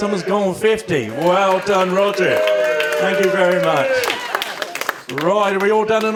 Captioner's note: applause